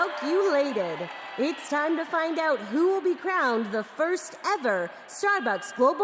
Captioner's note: cheers and applause